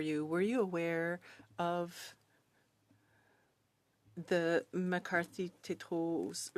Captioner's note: speaking French